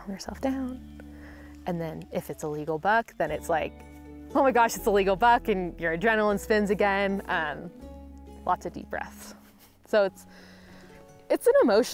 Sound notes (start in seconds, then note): 8.1 whispering